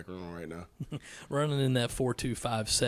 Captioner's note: correspondent chuckles